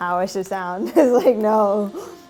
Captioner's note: laughs